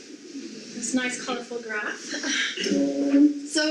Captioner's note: audience laughs